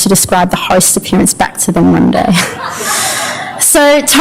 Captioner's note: laughter